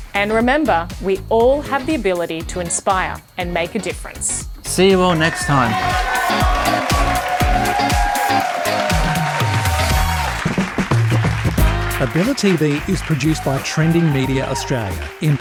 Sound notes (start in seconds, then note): 5.8 applauding